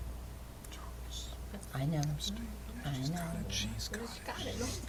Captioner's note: whispering